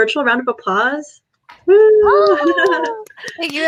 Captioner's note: claps, cheers